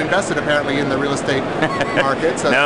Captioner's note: laughs